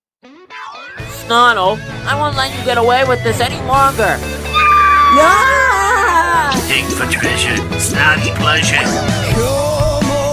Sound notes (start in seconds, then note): 4.4 Jibanyan yells; 4.4 both yell